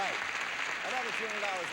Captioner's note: audience applauding